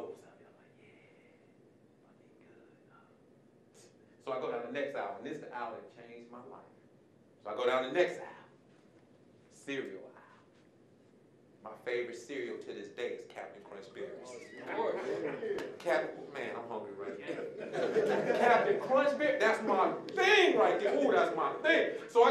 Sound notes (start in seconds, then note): 14.5 murmurs of approval; 17.2 audience laughing